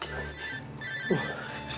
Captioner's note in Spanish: Suena el celular